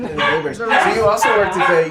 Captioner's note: dogs barking